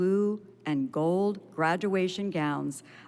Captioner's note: none